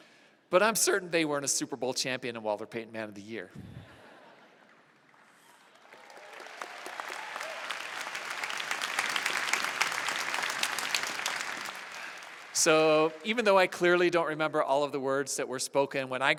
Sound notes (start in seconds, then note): 5.9 applause